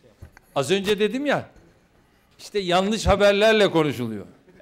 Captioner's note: non-english speech